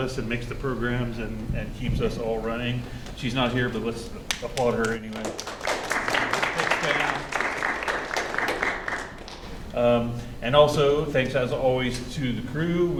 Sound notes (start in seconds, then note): 4.8 applause